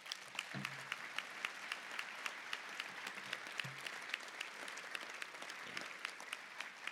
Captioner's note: applause